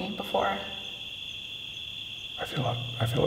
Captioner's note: crickets chirping